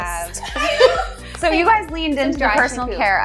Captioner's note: laughs